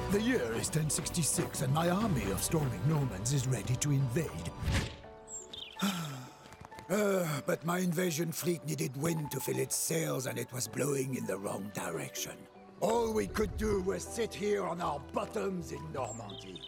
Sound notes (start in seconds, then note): 5.8 sighing